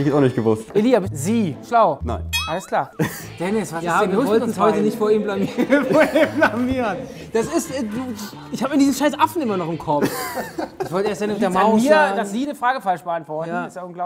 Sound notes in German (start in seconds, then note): 10.0 Lachen